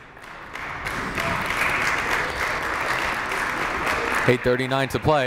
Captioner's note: crowd applauding